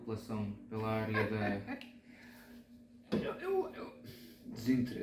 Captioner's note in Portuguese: risos